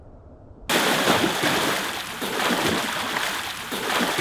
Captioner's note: water splashing